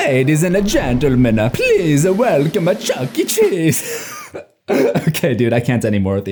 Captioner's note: laughs